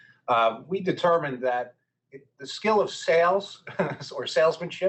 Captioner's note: chuckling